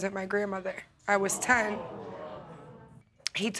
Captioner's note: audience gasp